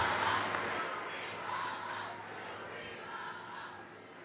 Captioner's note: audience chanting